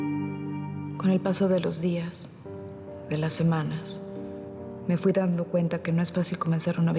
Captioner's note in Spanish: voz interior mientras escribe